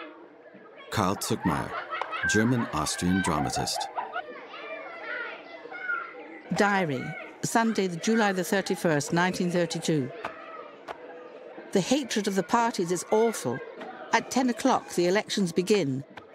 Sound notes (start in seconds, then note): 5.2 children talking